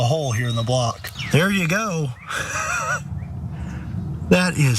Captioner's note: laugh